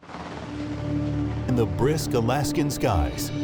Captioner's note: helicopter sounds